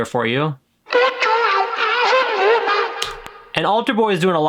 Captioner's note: distorted vocals